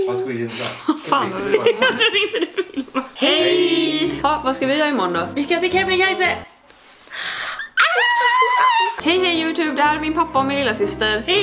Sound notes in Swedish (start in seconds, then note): 1.2 skrattar